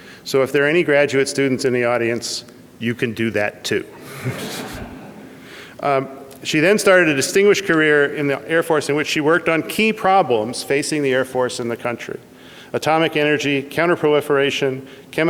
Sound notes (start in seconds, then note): 3.9 audience laughs